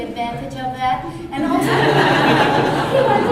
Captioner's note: laughter